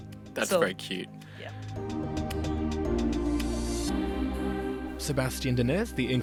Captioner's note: voiceover